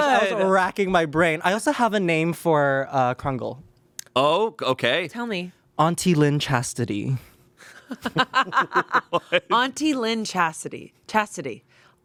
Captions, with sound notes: - I was racking my brain. I also have a name for Krungle. - Oh, okay. - Tell me. - Auntie Lynn Chastity. (everyone laughs) - Auntie Lynn Chasity. Chastity.